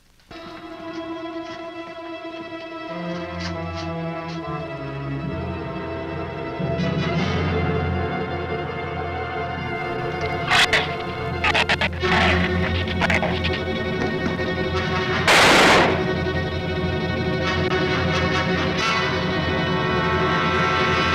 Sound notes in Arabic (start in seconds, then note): 0.3 موسيقى أوركسترالية مشوقة; 10.3 زئير الزبابة; 15.2 إطلاق نار